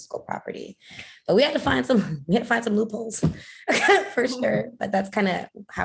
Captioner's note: laughter